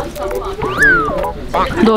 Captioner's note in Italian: Soffiando